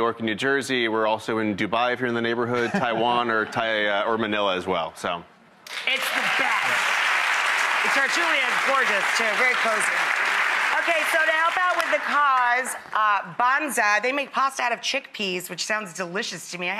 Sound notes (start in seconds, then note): 6.9 audience applauds